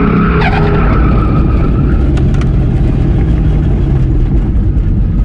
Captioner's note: rumbling from the rear passenger side tire; normal screeches, followed by a more pronounced one